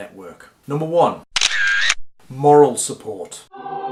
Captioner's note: camera shutter clicks